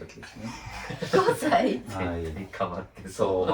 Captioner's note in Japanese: 笑い